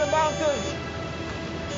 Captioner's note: beeping and mumbling